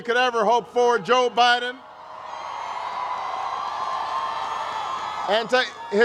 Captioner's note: crowd cheers